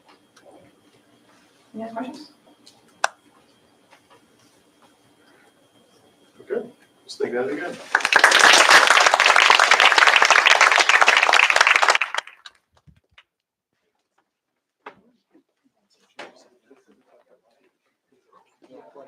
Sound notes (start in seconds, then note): 7.7 applause